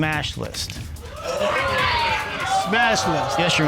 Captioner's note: audience chatter